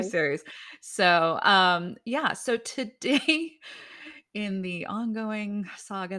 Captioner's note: chuckles